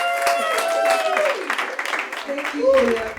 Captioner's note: audience applauds